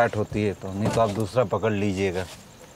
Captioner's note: Car door opens